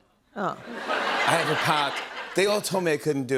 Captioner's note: laughter